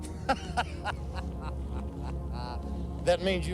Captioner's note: Luciani laughing